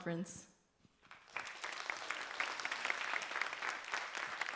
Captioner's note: applause